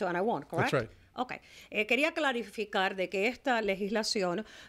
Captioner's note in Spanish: Hablando ingl\s